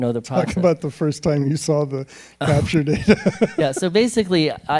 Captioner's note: laughs